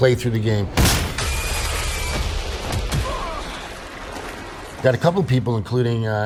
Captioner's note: gunshot; alien shrieking